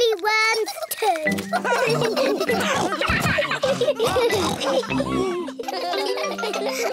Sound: all laugh

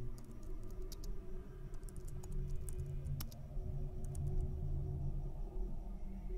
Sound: keyboard clicking; ominous tones

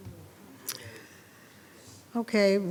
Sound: speaking faintly

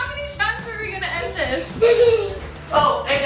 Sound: giggling

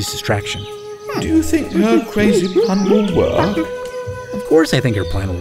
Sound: ape noises

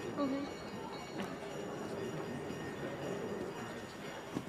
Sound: chattering

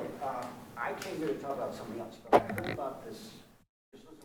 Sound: man murmuring softly

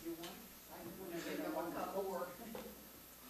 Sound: murmurs

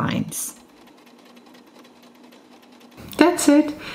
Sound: sewing machine

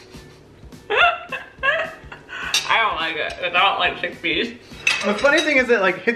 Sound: laughs

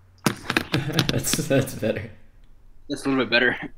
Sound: chuckles

